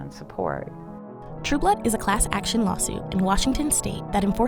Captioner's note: voiceover